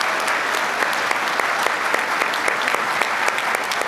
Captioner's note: applause